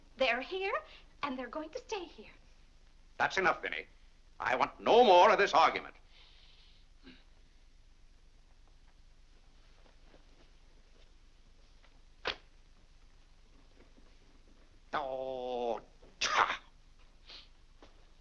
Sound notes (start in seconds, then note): 14.9 grumbling